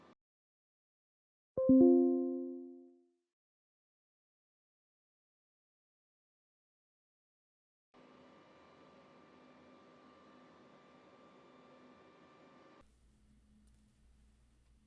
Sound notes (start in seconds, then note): 1.6 notification dings